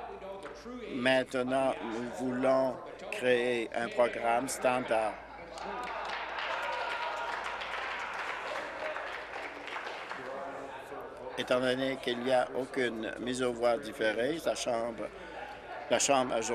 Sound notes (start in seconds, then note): 8.7 applause